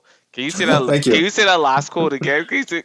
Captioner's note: laughs